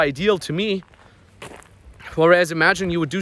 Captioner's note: footsteps stomping